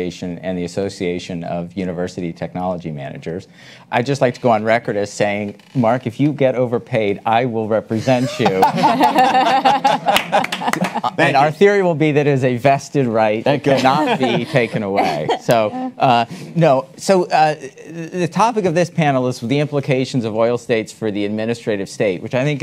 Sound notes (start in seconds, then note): 8.2 attendees laugh